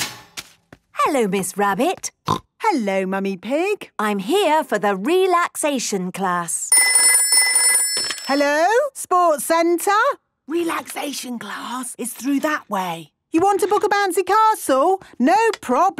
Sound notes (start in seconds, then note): 1.5 snorting; 6.7 phone ringing